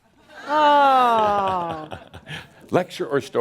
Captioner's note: Adamus chuckles